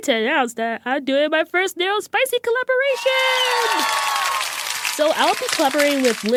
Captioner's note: applause